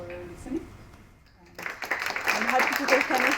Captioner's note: applause